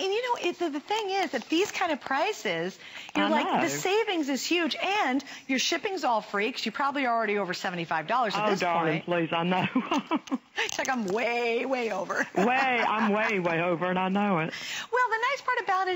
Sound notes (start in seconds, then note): 12.1 laughter